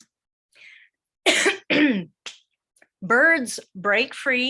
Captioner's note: coughing